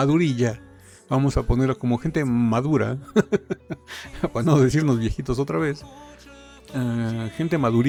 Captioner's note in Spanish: risas